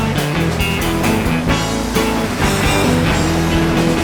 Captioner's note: surf sounds